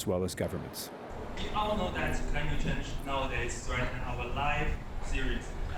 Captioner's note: speaking Chinese